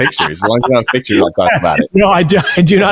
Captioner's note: laughing